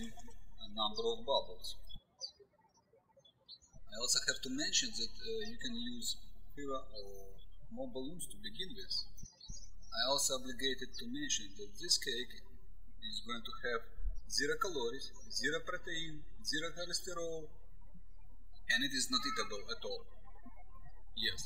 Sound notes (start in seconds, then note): 2.9 birds chirping